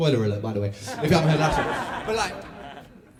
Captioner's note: laughter